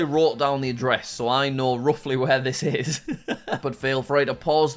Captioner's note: chuckles